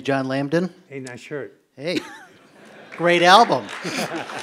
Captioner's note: applause